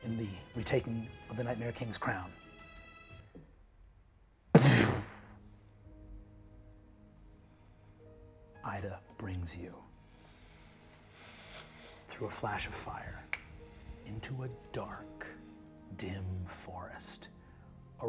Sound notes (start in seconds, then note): 4.6 imitates energy whooshing; 6.5 serene music